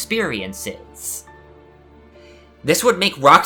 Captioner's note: inhale